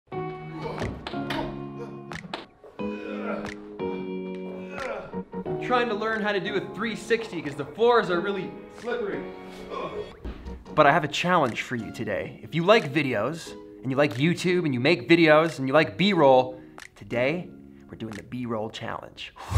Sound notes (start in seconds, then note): 0.0 gentle music; 2.8 groaning